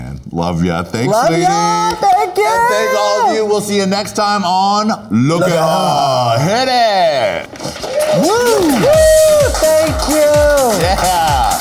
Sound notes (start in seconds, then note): 7.8 both whooping; 8.0 upbeat music